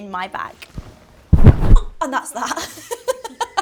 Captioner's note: low thuds; Molly-Mae laughs